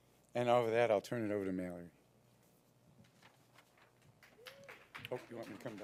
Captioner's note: applause